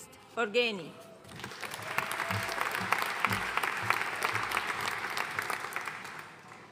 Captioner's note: audience cheering and applauding